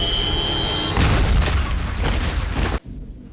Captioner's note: high-pitched buzzing; explosion, banging